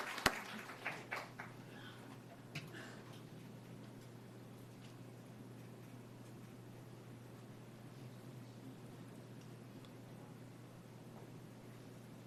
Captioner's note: applause